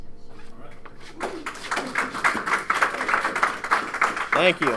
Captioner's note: audience clapping